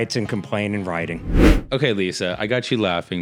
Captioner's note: whooshing